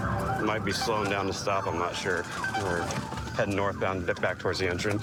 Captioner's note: sirens blaring